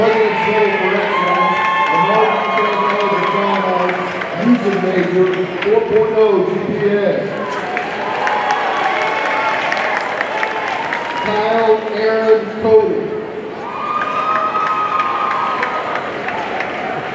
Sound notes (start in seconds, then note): 7.4 audience cheering and applauding; 13.6 audience cheering